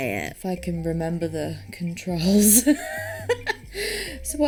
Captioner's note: laughs